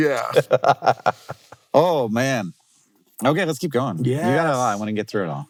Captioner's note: laughs